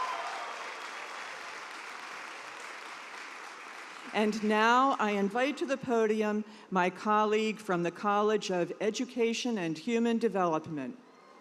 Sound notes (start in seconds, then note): 0.0 cheers and applause